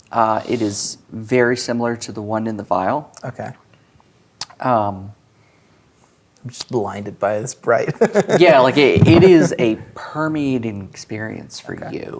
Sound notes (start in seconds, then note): 7.9 laughs